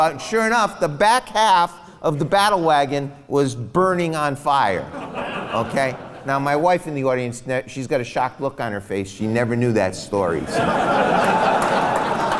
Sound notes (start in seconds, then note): 4.8 laughs; 10.4 big laughs, applause